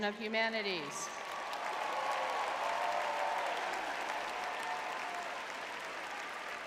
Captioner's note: audience cheering